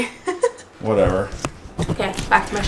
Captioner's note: laughs